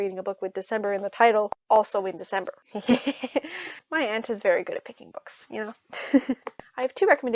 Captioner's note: laughs